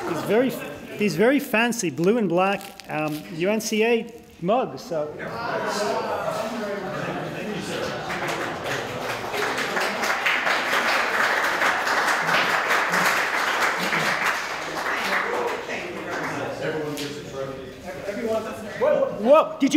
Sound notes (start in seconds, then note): 5.5 applause; 5.5 wows